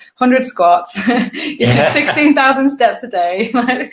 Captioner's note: laughing